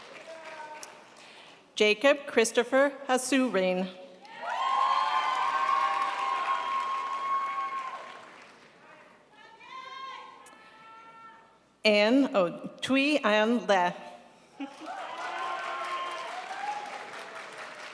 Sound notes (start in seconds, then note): 4.3 crowd applauds; 14.6 crowd applauds